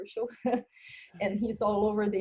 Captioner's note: laughing